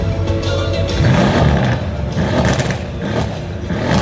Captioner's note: engine roaring